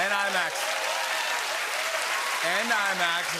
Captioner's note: cheers and applause